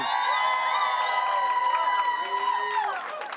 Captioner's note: applause